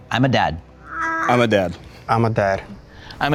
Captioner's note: baby cooing